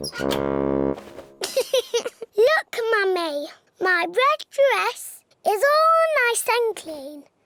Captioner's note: giggles